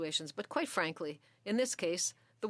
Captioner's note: speaking French